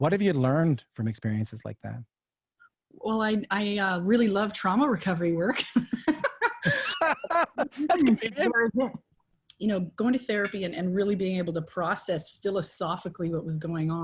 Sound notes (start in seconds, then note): 8.9 laughter